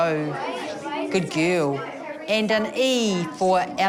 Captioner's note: none